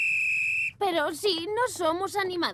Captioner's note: whistle blowing